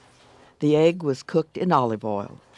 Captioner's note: voiceover